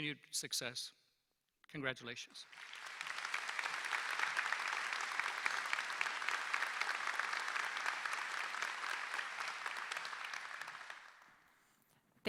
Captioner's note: applause